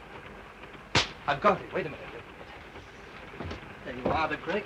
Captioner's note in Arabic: يصفق بيديه